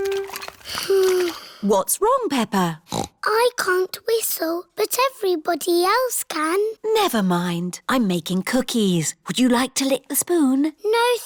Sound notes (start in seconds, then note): 0.6 sighs; 2.8 snorts